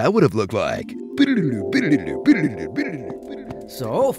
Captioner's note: imitates time travel music